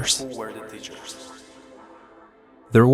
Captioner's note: voice echoes